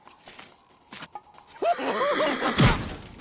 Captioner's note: laughs